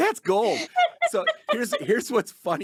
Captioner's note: laughing